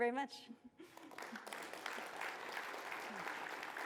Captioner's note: applause